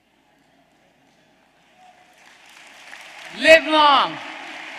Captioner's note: applause